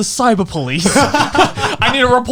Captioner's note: laughing loudly